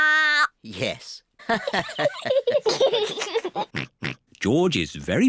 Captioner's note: all laugh